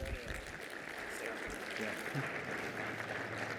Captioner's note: applause